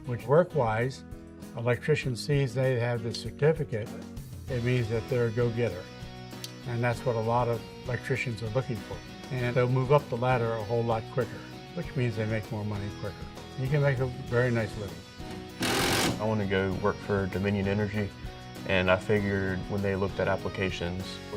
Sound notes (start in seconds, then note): 15.2 drilling noise